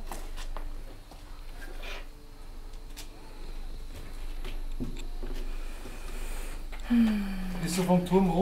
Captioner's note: footsteps and wind in the background